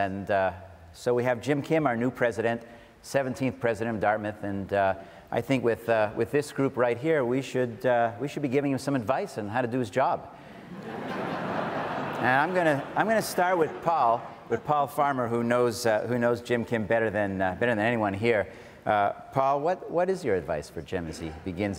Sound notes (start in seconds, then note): 10.6 audience laughs